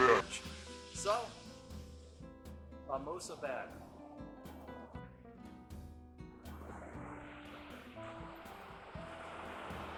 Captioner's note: Spanish